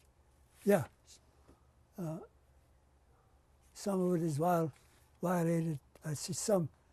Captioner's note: pauses for 3 seconds